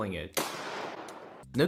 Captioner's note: boom